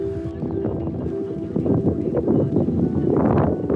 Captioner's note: wind blows